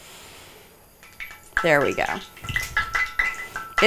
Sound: oil sizzles

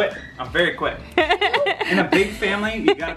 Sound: laughing

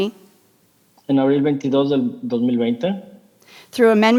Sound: translator speaking in Spanish

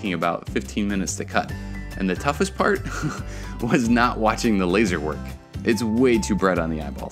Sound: laughter

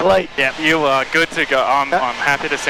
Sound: laughing

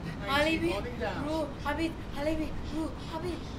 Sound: speaking foreign language

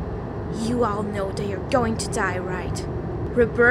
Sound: none

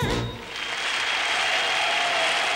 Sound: audience applauding

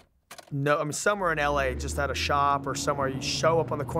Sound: car driving sound

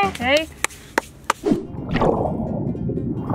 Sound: hands slapping; air whooshing

